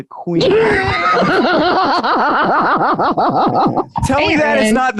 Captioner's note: laughing